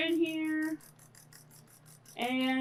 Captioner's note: whisk whisking